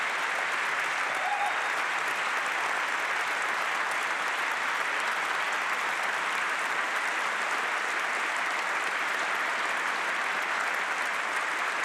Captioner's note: applause